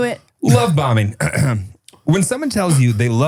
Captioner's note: throat clears